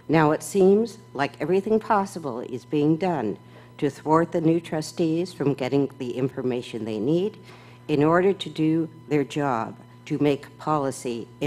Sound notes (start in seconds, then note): none